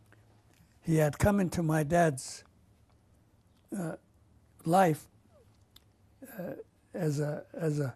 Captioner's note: pauses for 3 seconds